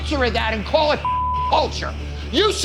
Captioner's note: beep